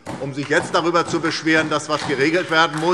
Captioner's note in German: Beifall SPD